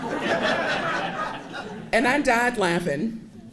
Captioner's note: audience laughing